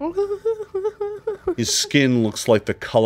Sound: woman whimpers

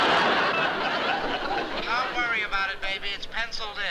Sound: on phone

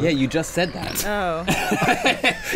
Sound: snorts; laughing

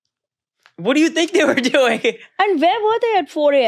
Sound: laughing

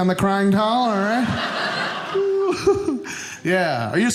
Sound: audience laughing

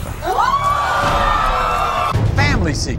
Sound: audience screaming

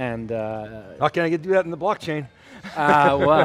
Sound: laughing

